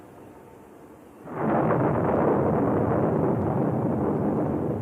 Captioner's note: thunder rolling